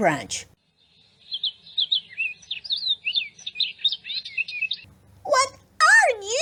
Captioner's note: sound of birds chirping